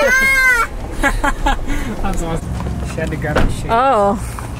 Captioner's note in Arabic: يضحك الصبي